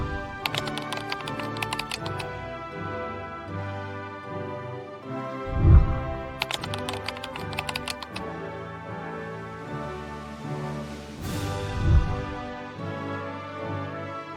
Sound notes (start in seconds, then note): 0.0 whooshing sound; 0.4 keyboard clicking; 5.5 whooshing sound; 6.4 keyboard clicking; 11.4 whooshing sound